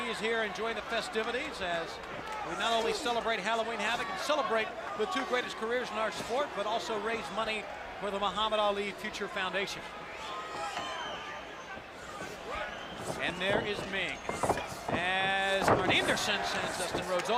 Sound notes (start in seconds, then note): 11.6 crowd chatter